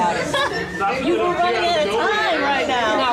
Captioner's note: audience chatter drowning out speakers